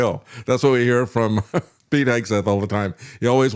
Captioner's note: laughs